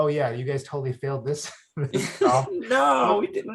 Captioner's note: chuckles; laughs